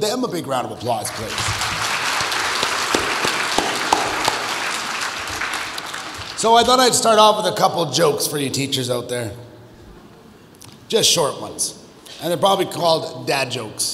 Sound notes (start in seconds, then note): 0.8 audience applauds